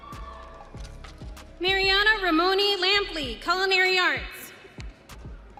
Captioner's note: audience cheering